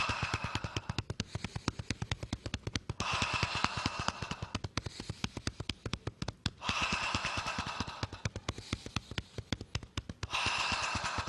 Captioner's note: inhales and exhales four times